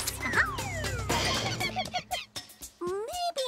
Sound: monkey cries

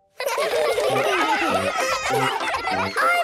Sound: excited laughter

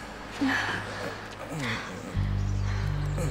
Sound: gasps

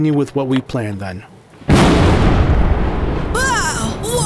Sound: huge explosion

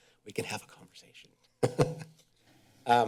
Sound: chuckles

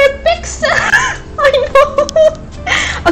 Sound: laughs

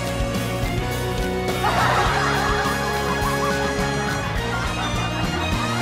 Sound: crowd bursts into laughter

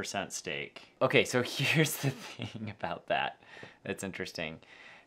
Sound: laughs

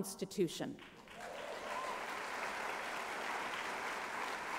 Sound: applause

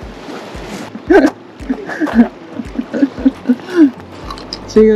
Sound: laughing

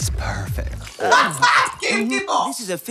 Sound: laughs

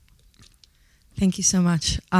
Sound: water glugging

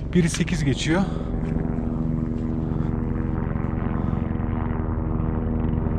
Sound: helicopter sound

